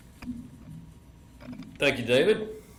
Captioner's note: none